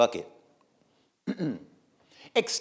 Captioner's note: clearing throat